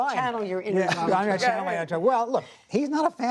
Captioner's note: laughter